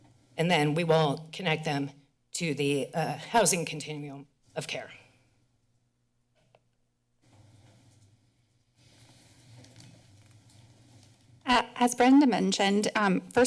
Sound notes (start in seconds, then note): 5.1 silence